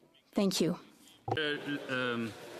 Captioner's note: applause